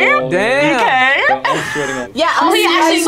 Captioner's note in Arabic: يضحك